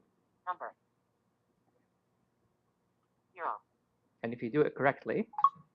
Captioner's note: Siri talking